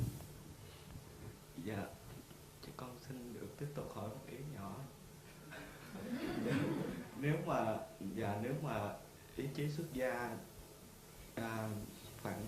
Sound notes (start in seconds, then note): 5.5 audience laughs